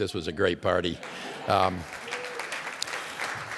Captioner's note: applause